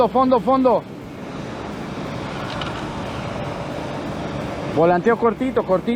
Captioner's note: engine revving